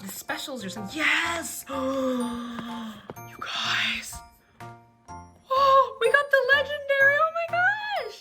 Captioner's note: gasps